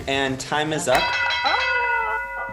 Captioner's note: alarm dings